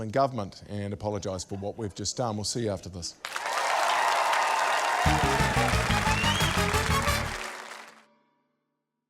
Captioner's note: cheering, applause